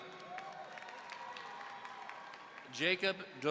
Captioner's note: audience cheering